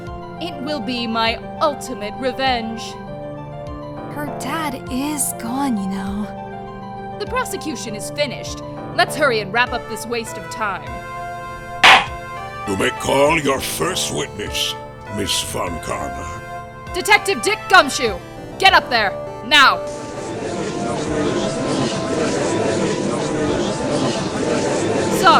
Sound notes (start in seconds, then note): 11.8 gavel slams!; 21.0 gallery chattering